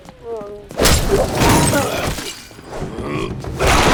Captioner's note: grunting